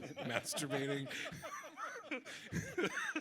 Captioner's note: people laughing